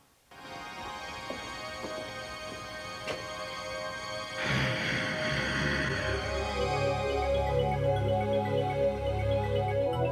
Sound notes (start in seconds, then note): 0.1 dramatic music; 4.4 growling; 6.0 ethereal music